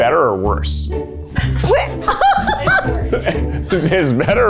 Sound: laughing

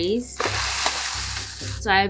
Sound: wheat clattering

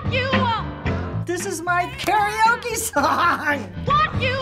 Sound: laughing

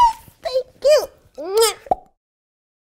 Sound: kisses

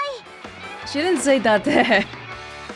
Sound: chuckles

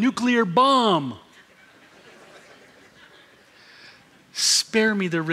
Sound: laughter

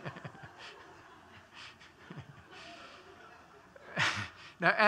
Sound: laughter

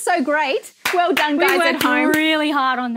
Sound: clapping

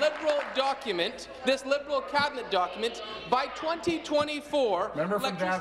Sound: applause

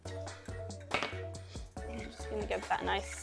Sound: soft upbeat music; bowl clatters

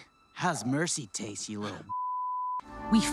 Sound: beep

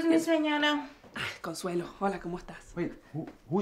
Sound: speaks spanish

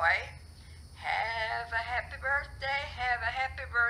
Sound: phone - singing

